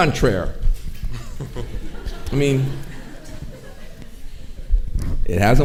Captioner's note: audience chuckling